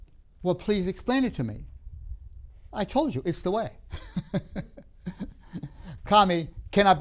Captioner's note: laughs